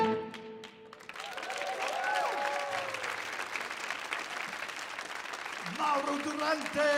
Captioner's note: people cheering and clapping